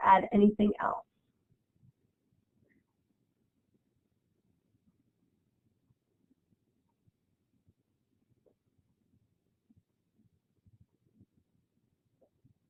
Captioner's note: silence